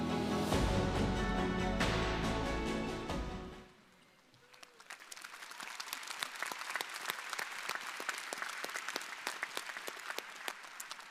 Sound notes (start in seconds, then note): 0.0 bright music; 4.2 crowd applauding